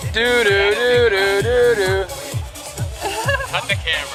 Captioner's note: laughs